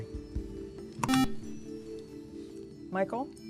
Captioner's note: buzzer